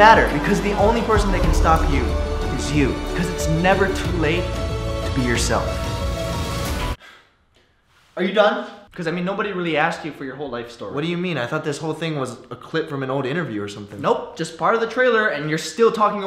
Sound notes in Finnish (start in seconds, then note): 7.0 huokaus